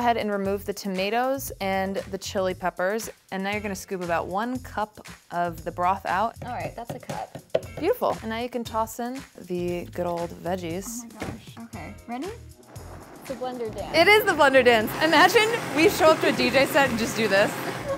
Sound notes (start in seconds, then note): 13.9 blender whirs